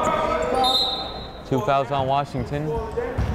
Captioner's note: chattering; whistle blowing